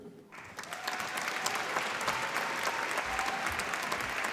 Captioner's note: applause